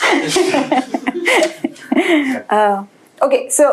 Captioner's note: laughter